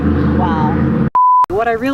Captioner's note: beep